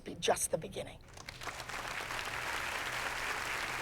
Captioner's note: applause